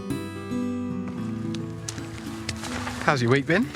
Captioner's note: footsteps